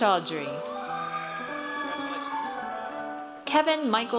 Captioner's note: audience cheers